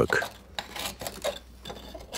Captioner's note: grinding